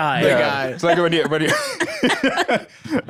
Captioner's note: laughs